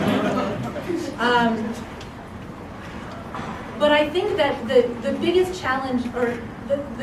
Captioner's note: laugh